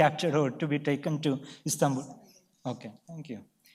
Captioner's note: speaks away from mic